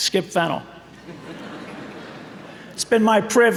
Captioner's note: audience laughing